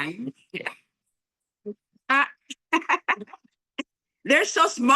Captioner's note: laughs